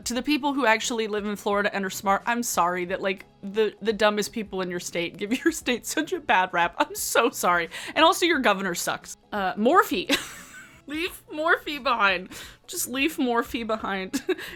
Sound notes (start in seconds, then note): 10.1 laughing